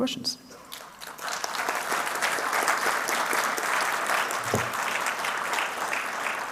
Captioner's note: applause